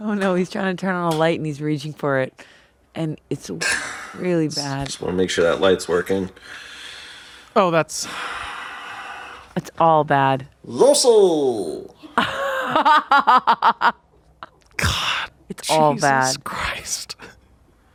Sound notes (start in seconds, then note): 12.1 laughs